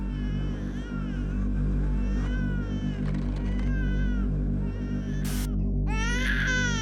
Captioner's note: baby crying